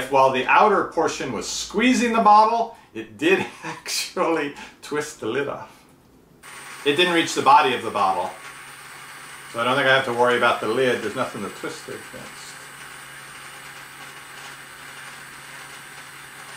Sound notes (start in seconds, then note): 12.8 motor